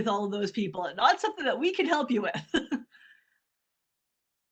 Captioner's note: laughs